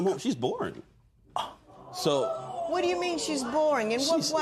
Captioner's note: gasps